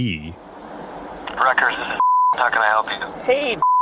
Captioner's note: on phone